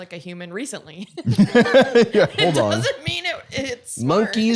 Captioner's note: laughs